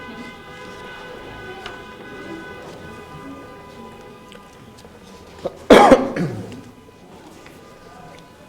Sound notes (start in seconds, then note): 0.0 cars honking; 5.3 coughs